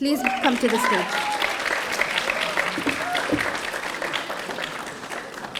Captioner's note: audience applauding